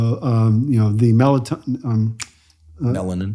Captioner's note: finger snaps